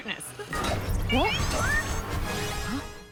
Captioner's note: warbles excitedly